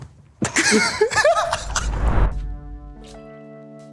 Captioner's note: group laughing; soft music